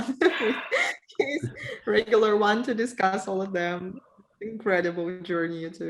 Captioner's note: laughs